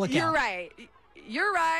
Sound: laughter

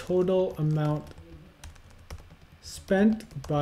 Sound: keyboard tapping

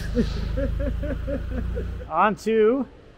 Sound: laughing

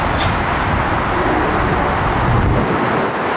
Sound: faint Horn

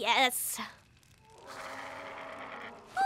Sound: growl

